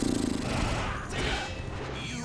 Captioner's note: grumbling